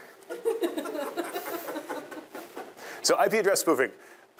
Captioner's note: students laughing